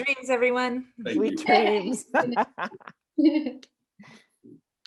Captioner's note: all laughing